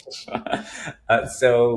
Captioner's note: chuckling